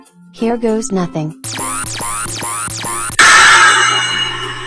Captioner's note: zapping; poof